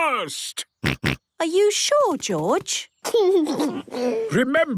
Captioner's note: George snorts; giggles